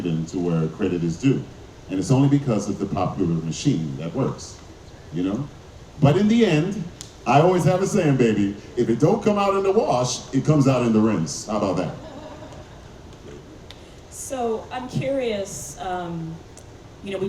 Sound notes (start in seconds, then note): 11.8 audience laughing